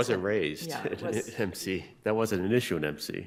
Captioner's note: laughing